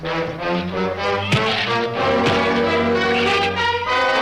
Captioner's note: fist thuds